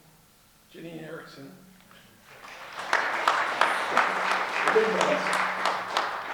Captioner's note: audience clapping